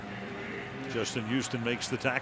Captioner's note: pa announcement